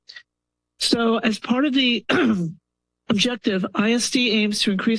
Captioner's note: clears throat